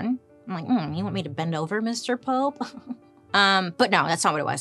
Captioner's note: chuckles